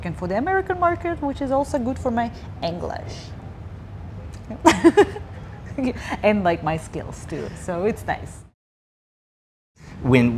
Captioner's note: laughing